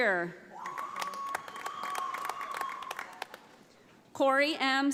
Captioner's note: audience applauding